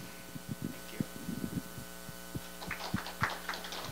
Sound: audience applause

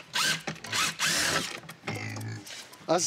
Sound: pig grunting; drills whirring

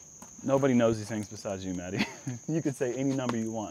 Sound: chuckles

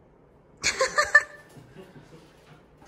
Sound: laughs

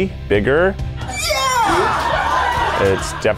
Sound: crowd cheering

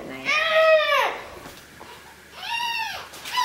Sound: yelling

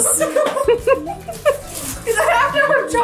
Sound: all laughing

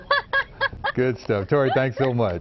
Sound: laughter

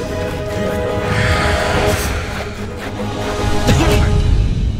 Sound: beast huffs

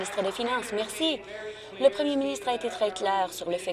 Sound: applause

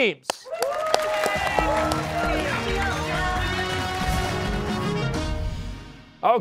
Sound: cheers and applause

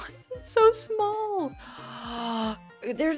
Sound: gasp

